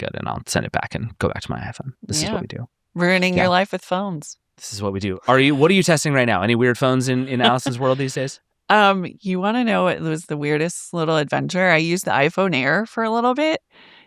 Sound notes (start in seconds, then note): 8.4 chuckles